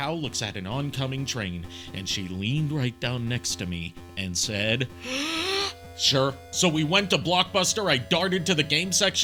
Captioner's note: inhale